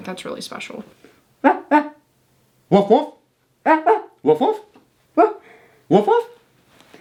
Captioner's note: imitating dog sounds